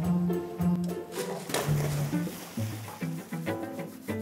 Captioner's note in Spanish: Ruido al tumbar el florero